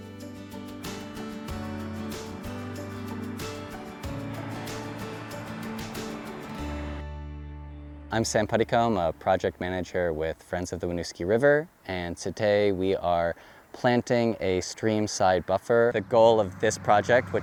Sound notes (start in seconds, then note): 0.1 bright upbeat music; 4.5 traffic droning